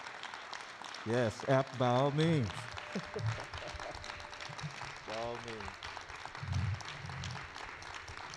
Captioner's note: applause